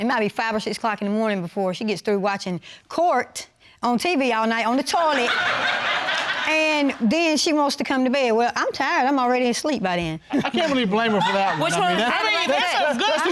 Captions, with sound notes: It might be 5:00 or 6:00 in the morning before she gets through watching Court on TV all night on the toilet. (AUDIENCE LAUGHS) And then she wants to come to bed. Well, I'm tired. I'm already asleep by then. I can't really blame her for that one. I mean, that's a good Court.